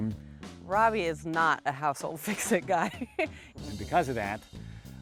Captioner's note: laughs